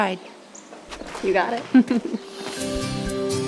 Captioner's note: Bonnie chuckles; uplifting music